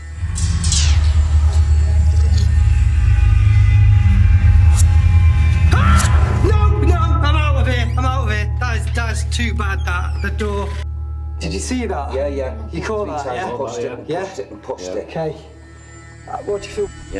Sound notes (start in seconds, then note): 0.2 suspenseful music; 5.7 screams